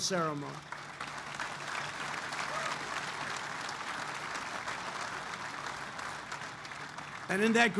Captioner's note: applause